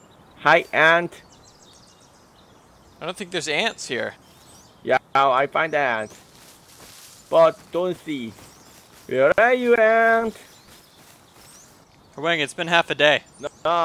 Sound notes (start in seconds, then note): none